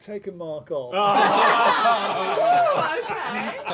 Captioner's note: laughter